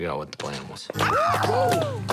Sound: screaming

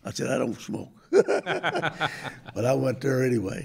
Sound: chuckles

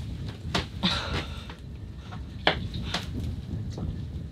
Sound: gasping

